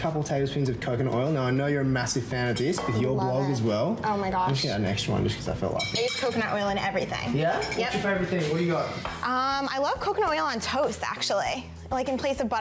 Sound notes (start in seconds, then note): none